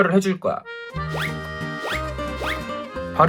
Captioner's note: shoong